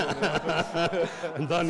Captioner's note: audience laughs